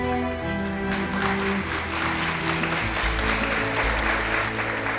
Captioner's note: audience applauding